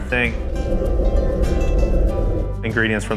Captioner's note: sound of fire in oven